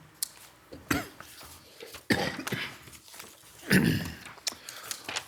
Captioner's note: coughs